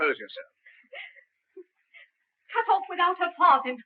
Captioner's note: Annabelle weeping